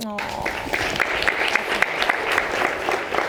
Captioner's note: applause